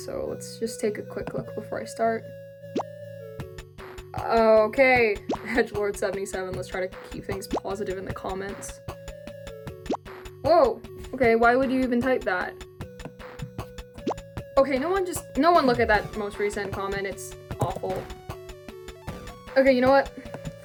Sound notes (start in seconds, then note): 2.4 digital pop; 9.8 digital pop; 14.0 digital pop